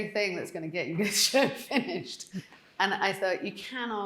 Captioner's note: laughing